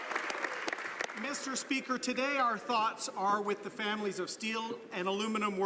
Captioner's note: some Applause